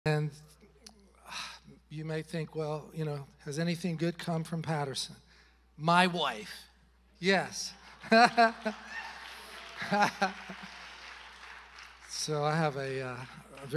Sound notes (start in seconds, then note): 7.7 congregation cheering and applauding; 8.0 chuckles